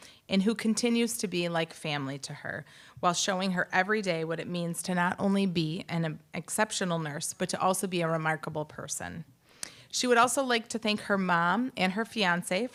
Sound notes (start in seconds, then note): none